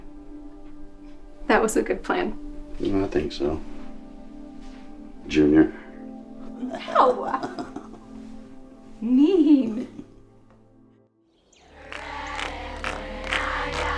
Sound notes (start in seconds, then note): 7.1 Dave chuckles; 11.2 birds chirping